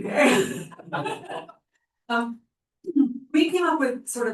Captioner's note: laughter